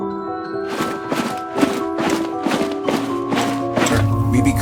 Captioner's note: skeletons marching